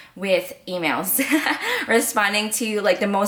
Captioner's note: laughs